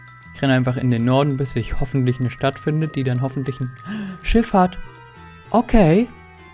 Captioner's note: gasp